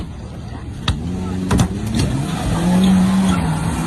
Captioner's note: engine roars